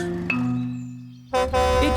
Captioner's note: horn honks